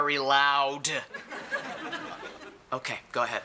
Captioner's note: audience laughing